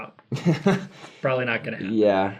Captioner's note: laughs